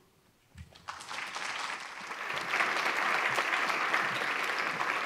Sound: applause

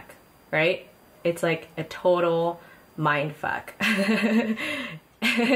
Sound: laughs

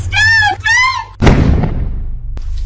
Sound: gunshot

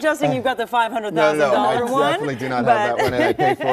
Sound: laughter

